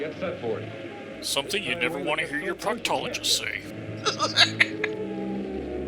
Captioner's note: laughs